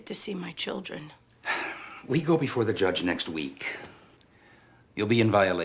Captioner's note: sighs